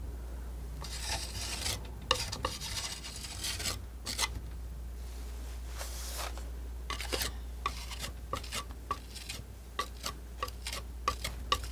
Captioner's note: scratching